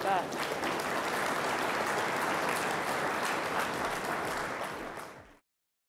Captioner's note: applause